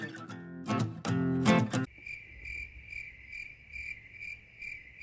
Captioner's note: crickets